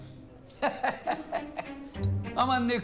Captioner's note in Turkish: Gülme sesi